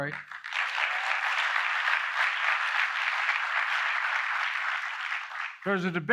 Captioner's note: applause